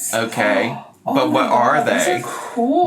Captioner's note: gasps